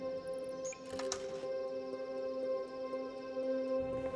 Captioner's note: lock click; ominous music